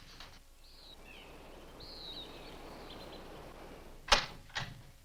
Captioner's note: birds chirp